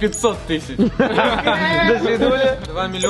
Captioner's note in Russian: смеются